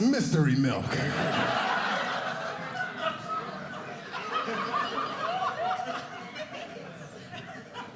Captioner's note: audience laughing